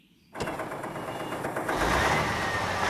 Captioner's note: engines Starting